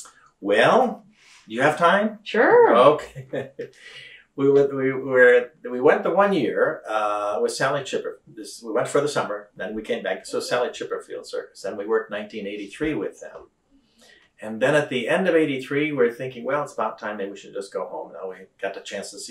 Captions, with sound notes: Well, you have time? Sure! Okay. (Laughs) We went the one year with Sally Chipperfield. We went for the summer and then came back so, Sally Chipperfield’s Circus. Then we worked 1983 with them. Then at the end of ’83, we were thinking, “Well, it’s about time, maybe we should just go home.” We got the chance to see